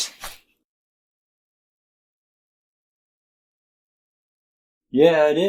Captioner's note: silence